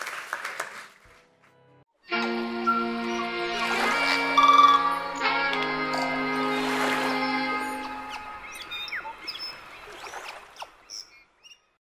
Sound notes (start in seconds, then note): 2.0 jazzy music; 2.4 nature sounds